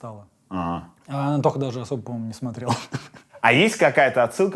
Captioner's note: chuckles